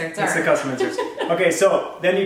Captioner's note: laugh